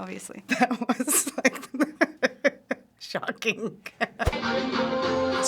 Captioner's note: cracking up